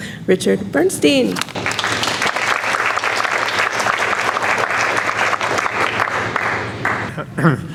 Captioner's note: audience applauds